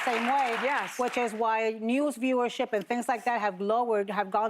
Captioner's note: applause